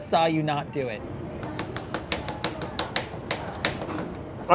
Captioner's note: smacking